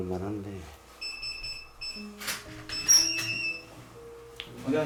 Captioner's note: the sound of opening the entrance